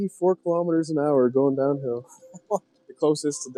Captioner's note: host laughs